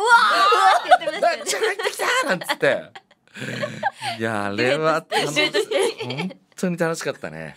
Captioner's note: laughs